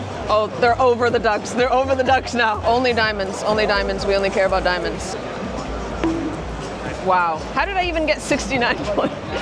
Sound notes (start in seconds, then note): 5.9 coconut bonk; 8.9 laughs